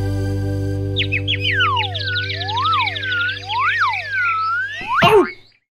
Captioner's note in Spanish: Sonido de pajaritos